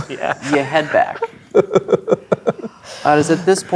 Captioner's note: laughing